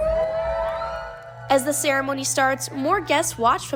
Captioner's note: applause